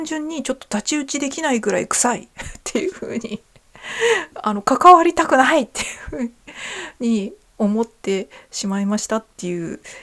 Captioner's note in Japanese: 笑い